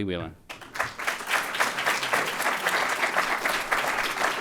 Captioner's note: audience applauds